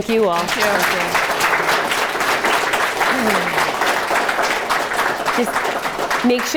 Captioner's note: audience applauds